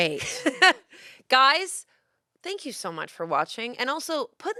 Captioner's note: laughs